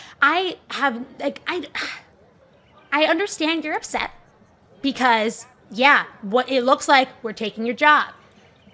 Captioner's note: sighs